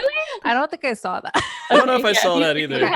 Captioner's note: laughs